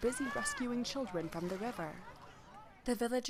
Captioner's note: voices shouting